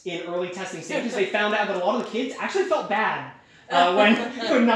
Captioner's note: laughter